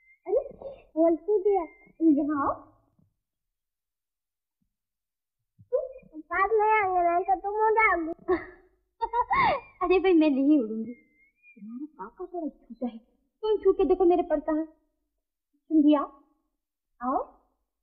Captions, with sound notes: She talks Come here Why? - You might fly away (Laughs) I won't fly away. Your uncle is a liar Touch me, see if I have wings. Come on...